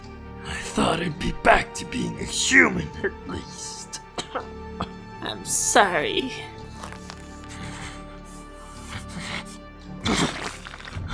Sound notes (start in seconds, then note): 3.7 cough; 6.6 heavy breathing